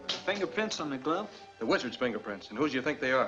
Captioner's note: none